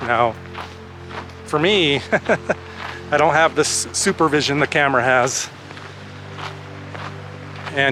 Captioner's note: laughter